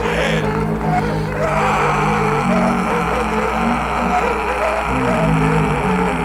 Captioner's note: deep growl continues; Danko screams